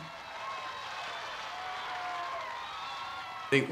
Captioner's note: crowd cheering